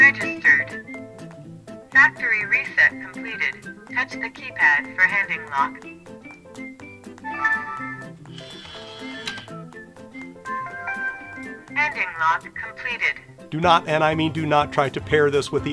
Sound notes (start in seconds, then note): 7.2 beeps and whirs